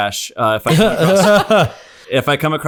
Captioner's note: laughter